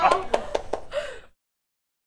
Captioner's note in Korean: 박수